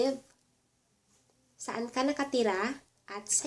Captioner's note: Tagalog